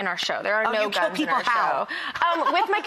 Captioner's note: laughs